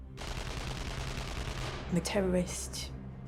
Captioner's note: gun fires rapidly